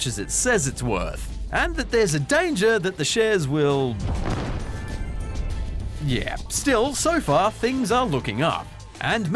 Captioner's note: explosion